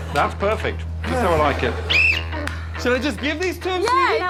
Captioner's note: blows whistle